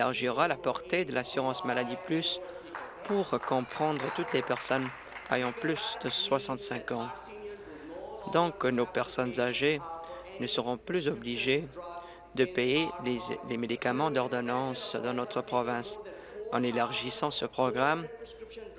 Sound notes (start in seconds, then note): 8.0 applause